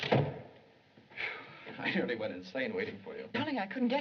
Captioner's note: sighs